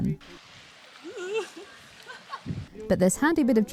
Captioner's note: wobbly yelp